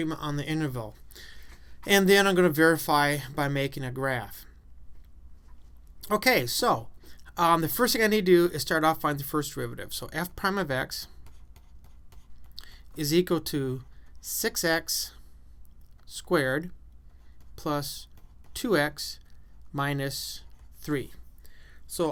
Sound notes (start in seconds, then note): 11.0 writing on chalkboard